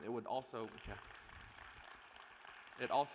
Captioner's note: audience applauding